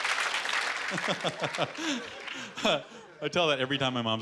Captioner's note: chuckling